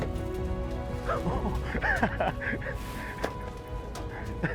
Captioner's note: laughing